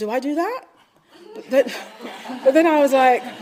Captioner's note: audience laughing